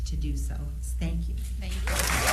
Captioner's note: applause